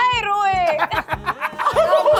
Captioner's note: laughs